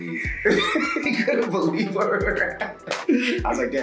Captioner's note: laugh